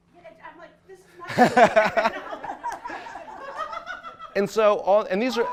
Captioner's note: laughing